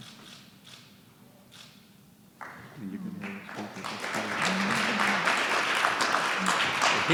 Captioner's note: applause